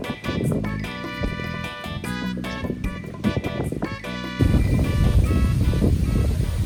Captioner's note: laid back music; wind swooshing